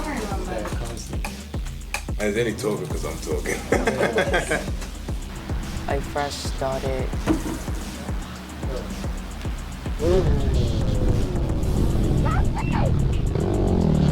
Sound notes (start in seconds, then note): 2.7 laughs; 7.2 door bangs